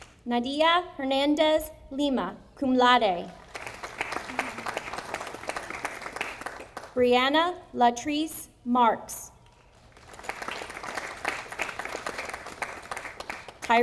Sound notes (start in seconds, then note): 3.4 audience applauding; 9.9 audience applauding